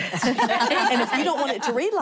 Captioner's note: laughter